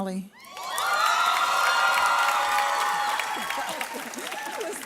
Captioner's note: audience cheers